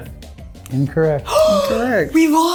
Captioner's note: gasping